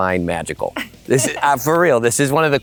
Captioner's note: chuckles